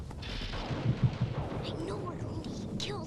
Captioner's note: thunder crashes